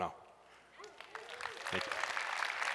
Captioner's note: applause